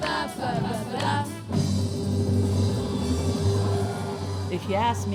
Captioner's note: cheers and applause